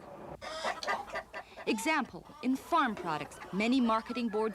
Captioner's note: clucking